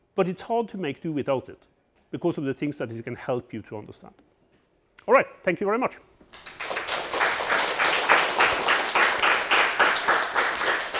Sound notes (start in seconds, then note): 6.3 students applauding